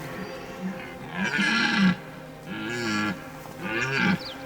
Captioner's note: stag roars